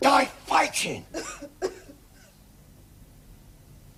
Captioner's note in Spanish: Bessy tose